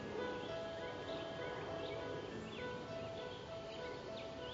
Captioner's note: jet overhead